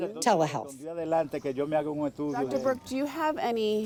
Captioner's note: speaking in foreign language